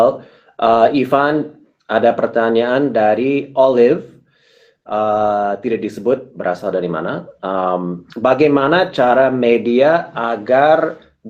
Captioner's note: speaking indonesian